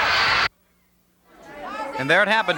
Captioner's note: audience chattering